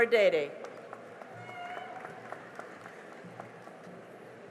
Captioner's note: cheering and applause